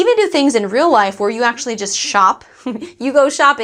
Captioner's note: laughs